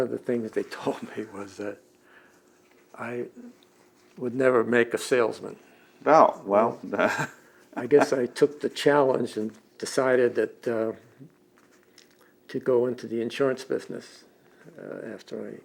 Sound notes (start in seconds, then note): 7.7 laughs